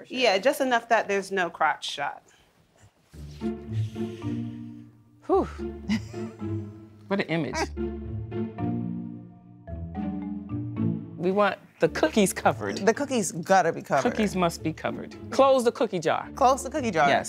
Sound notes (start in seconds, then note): 3.4 inhales; 5.8 laughing